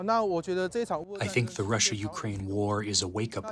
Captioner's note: through translator